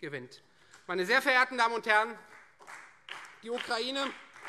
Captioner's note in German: Vereinzelter Beifall Freie Demokraten